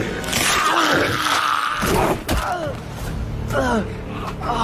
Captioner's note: ominous music; superhero chokes; man screams; superhero thuds; superhero grunts